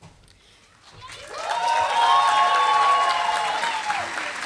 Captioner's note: applause